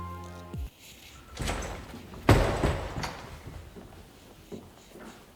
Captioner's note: doors opens very hard